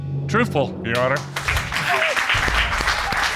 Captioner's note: applause